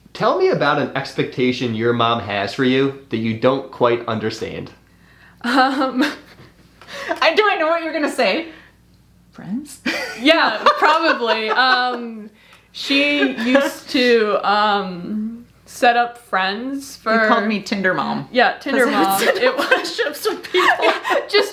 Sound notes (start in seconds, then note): 11.4 mom laughs